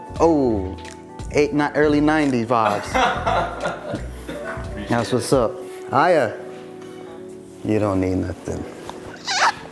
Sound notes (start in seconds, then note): 2.6 laughs